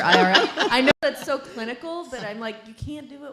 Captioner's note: laughing